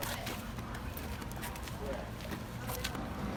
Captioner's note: footsteps